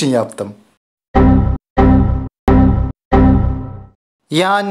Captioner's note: ❌ Computer Error Sounds ❌